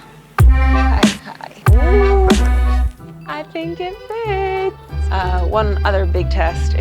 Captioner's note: upbeat music; sighs